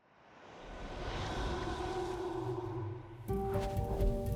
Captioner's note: air whooshing; intriguing music